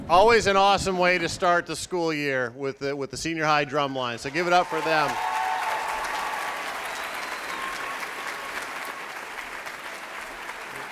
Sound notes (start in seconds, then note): 4.3 applauding